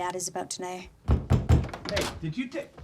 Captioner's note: banging on door